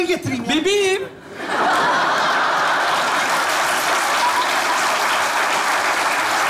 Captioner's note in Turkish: Kahkaha ve alkış sesleri